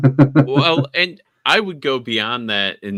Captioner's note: laughing